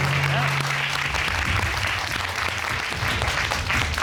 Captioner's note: audience applauding